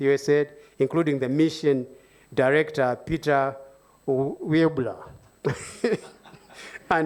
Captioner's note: laughs